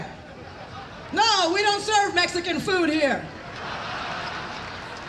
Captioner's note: applause, laughter